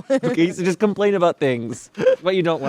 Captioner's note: laughs